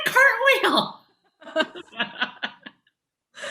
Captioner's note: laughing